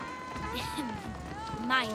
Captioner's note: laughs